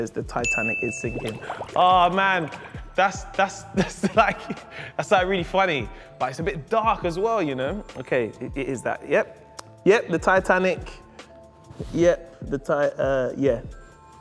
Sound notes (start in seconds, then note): 0.4 ding